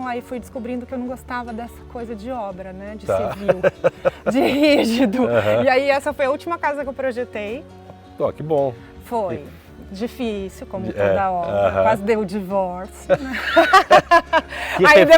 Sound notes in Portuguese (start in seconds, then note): 13.0 risos